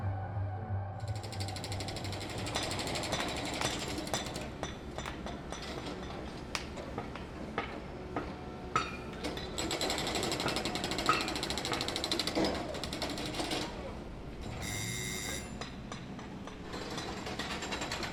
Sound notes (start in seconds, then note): 2.0 glass clanking together; 11.4 construction din; 14.6 doorbell rings